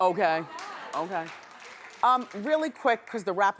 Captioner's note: clapping